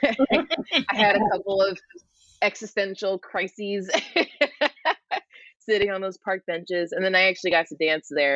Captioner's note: laughter; laughs